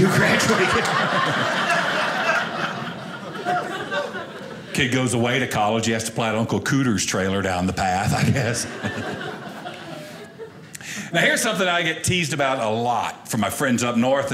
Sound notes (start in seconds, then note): 0.0 audience laughing; 8.1 audience laughing